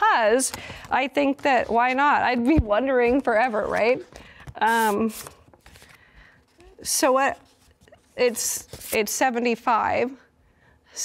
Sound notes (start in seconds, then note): 2.8 paper rustling